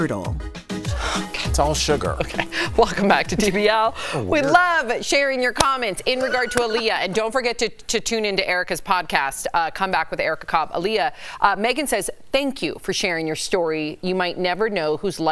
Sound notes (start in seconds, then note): 6.1 laughter